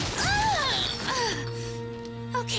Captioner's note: pained groan